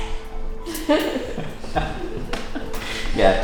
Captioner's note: background laughter